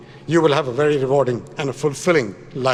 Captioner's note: none